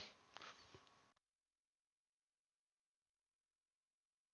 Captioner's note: silence